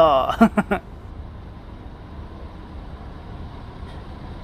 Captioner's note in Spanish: sonido ambiente y del bus saliendo del terminal